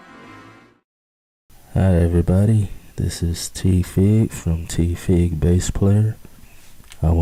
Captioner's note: male Speaking